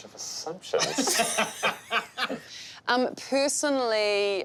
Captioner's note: everyone laughing